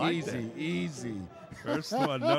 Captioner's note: laughing